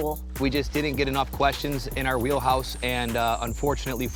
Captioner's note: none